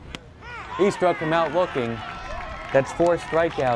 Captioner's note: crowd cheers